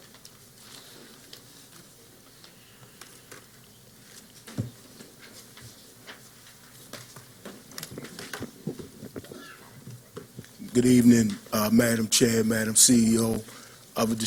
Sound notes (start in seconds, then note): 0.7 silence